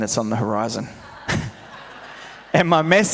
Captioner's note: audience laughs